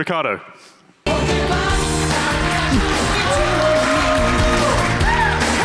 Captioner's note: audience applauds